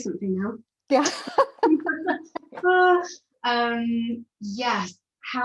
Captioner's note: laughs